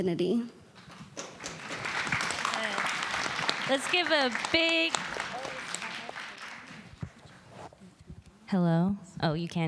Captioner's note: applause